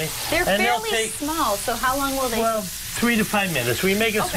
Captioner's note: sizzling